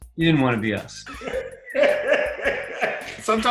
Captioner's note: laughing